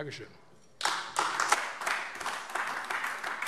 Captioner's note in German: Beifall AfD